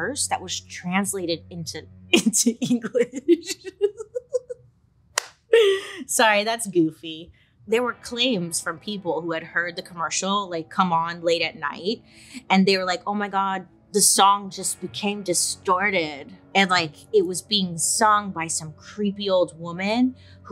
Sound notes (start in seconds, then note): 2.7 laughs; 5.2 claps